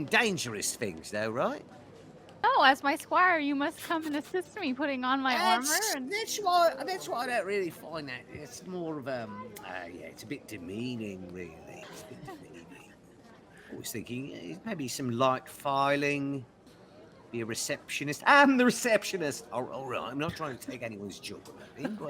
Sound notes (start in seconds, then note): 13.0 Violette laughs